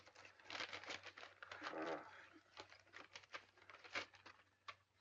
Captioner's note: paper rustling